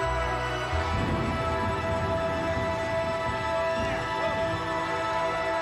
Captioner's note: thunder rumbling